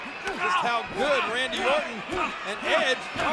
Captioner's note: blow thudding